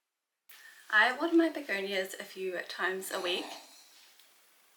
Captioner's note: loud snore